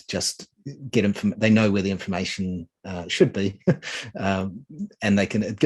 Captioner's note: chuckling